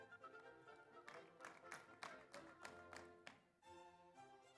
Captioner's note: audience applauds